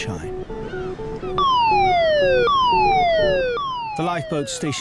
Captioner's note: alarm blaring